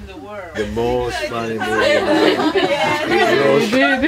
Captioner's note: more laughter